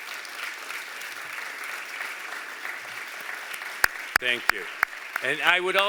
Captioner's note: applause